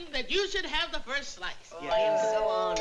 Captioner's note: doorbell rings